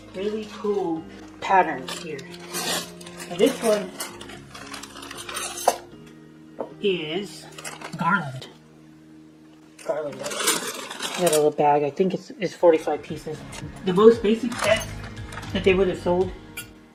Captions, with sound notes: really cool patterns here. And this one... (Clanging flatware) is Garland. Garland. Got a little bag, I think it's, it's 45 pieces. The most basic sets that they would have sold...